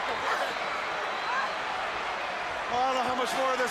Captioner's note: crowd chatter